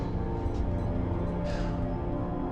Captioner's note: sighs